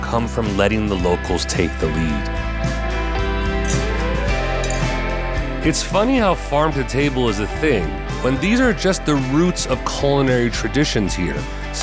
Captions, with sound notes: come from letting the locals take the lead. (light music) (glasses clinking) It's funny how farm-to-table is a thing when these are just the roots of culinary traditions here.